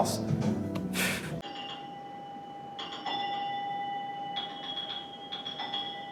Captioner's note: scoffs; repetitive pinball dings play through TV